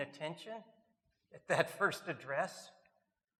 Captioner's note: chuckles